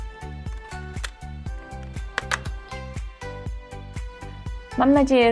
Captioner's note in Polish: klik